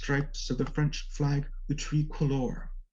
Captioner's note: foreign language spoken